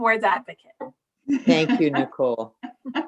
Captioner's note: laughing